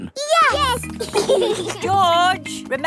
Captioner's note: giggling